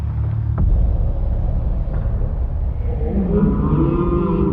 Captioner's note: low motion voices